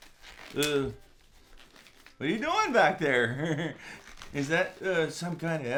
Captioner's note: glove squeaks